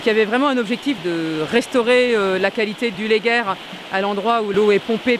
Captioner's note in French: rivière du Léguer s'écoule